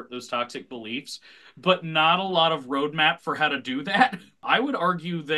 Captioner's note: chuckles